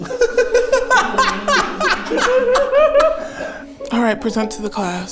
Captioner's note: everyone laughs